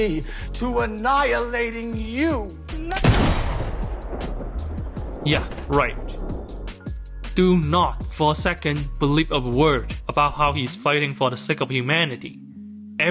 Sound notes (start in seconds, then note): 3.0 gunshot